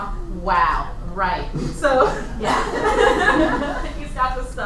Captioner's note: laughter